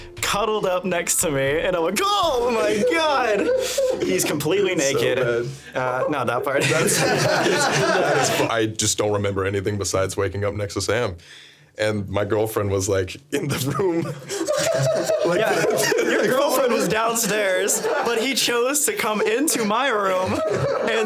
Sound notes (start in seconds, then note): 6.9 everyone laughing; 14.2 laughing